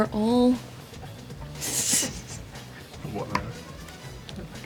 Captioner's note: laughs